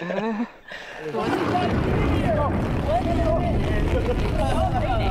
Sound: all chattering; rain splashing

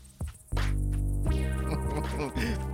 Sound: Tobor chuckling

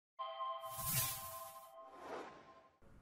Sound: chime

